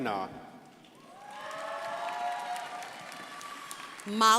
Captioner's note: crowd applauding